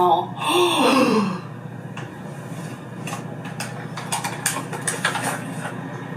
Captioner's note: gasps